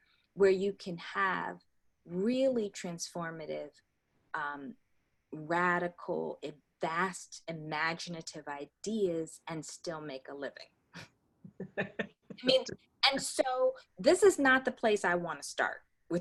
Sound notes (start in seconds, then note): 11.6 laughter